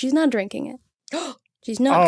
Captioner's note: gasps